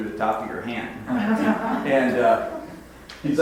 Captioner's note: audience laughs